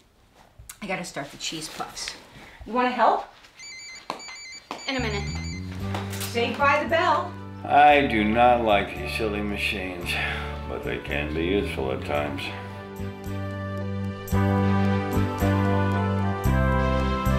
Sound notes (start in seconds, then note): 3.6 phone ringing; 14.7 upbeat music